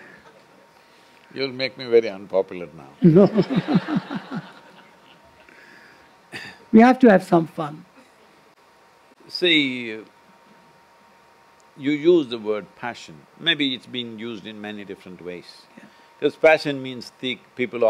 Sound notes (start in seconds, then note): 3.0 laughter